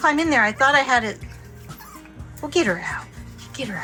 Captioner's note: Daisy whining